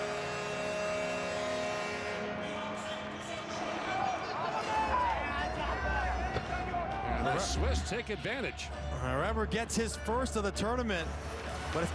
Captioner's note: horn